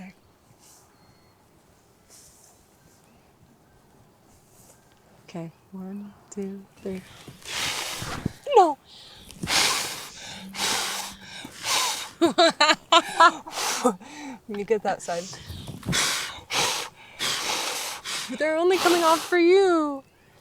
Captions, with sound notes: - Okay, I am gonna say the wish in my head. - Okay. - Okay, one, two, three. [air blowing] - You get that side. [air blowing] - But they're only coming off for you.